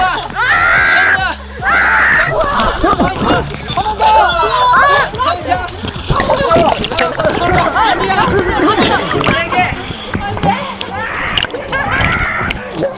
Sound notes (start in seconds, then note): 6.0 splashing water